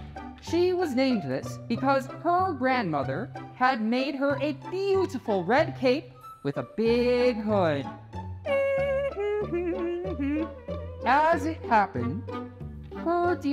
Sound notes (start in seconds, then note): 8.4 Red hums